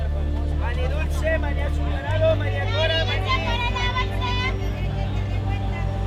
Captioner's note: speaking foreign language